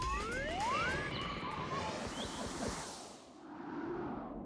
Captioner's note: birds chirping